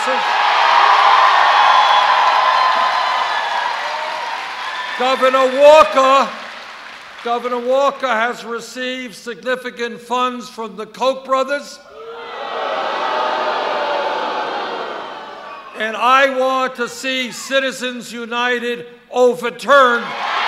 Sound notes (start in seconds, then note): 0.0 cheers; 11.9 boos; 20.0 cheers